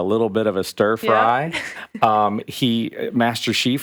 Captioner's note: chuckles